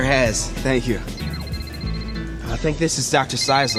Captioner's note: phone rings